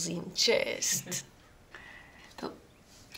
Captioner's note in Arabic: يضحك